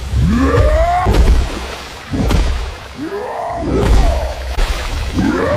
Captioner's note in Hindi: कराहने की आवाज़; चीखने की आवाज़